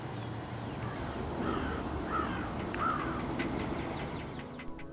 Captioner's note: distant crow caws